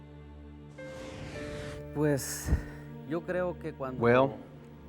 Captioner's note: speaking spanish